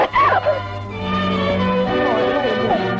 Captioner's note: Chloe crying